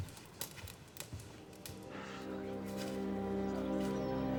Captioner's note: fire crackling; somber music